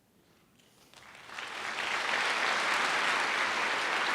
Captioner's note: applause